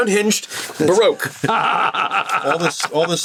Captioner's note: laughs